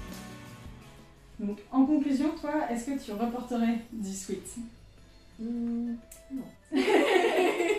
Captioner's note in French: rires